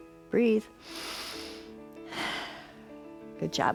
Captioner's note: inhales and exhales